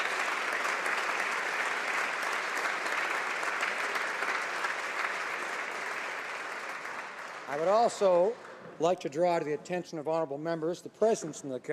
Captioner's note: applause